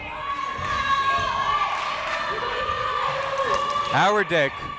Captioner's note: crowd members shouting